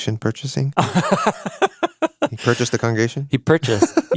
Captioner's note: laughs